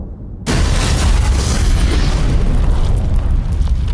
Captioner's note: car exploding